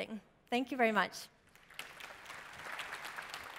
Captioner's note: applause